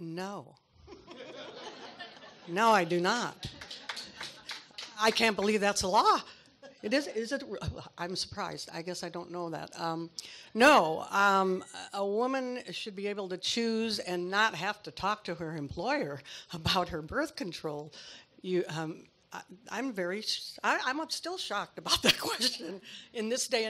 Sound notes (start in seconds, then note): 0.9 audience laughs; 3.4 audience claps